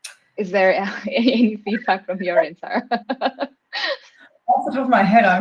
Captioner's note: chuckles